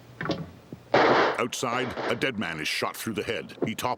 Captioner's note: gunshots